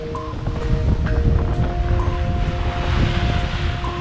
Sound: wind rattling

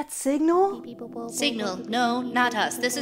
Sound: alien background noises

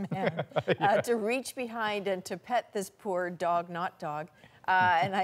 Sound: laughter

